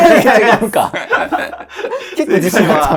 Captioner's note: laughing